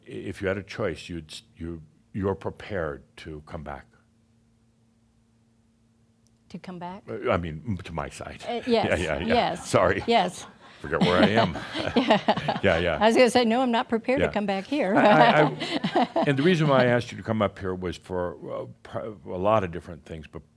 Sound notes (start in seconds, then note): 11.5 laughter; 17.9 chuckling